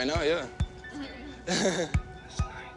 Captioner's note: laughs